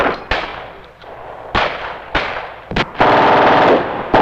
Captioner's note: missiles blasting; explosions booming